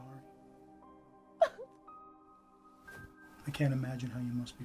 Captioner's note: Julie sobs